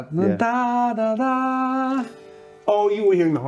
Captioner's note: humming